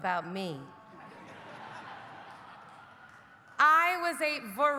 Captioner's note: audience laughing